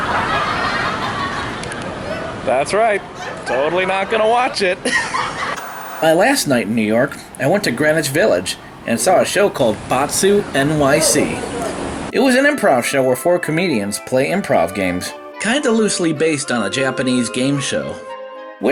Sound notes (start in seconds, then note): 0.0 audience laughing; 5.3 white noise scratching